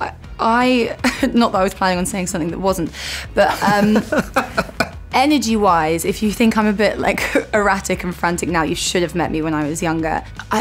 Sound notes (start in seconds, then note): 0.3 laughs; 3.4 laughs